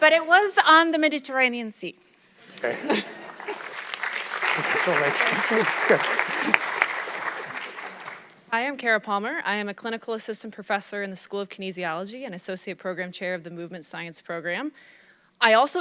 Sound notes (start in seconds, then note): 4.1 audience clapping